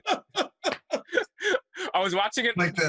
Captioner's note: laughter